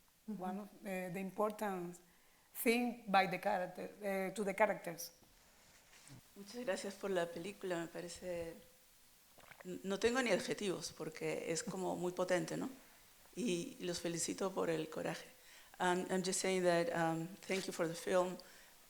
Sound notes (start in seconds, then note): 7.8 in Spanish